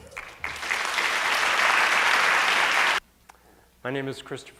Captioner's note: applause